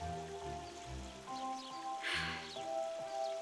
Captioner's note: sighing